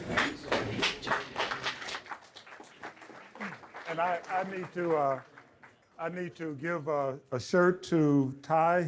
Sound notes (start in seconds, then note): 1.8 audience clapping